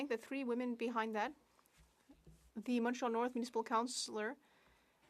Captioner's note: speaking French